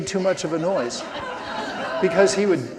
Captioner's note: audience laughing